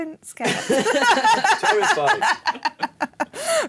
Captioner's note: laughing